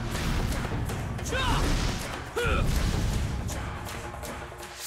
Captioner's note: grunting